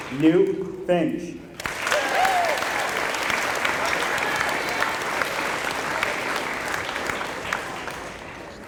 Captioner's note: applause